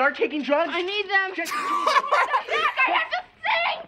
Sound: cracks up

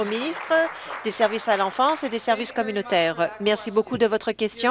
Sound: applause

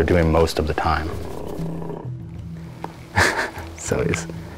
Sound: lions growling

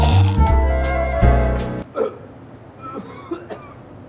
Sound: coughing

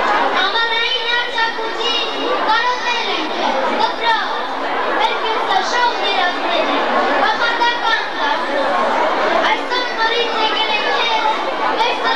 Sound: children reciting some poetry

